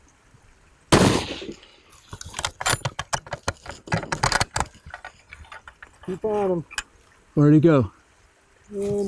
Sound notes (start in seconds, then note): 0.9 gun fires; 2.9 gun cocks